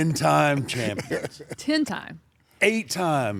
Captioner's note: laugh